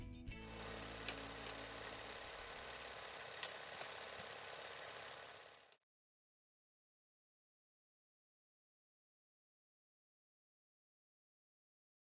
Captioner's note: film reel spinning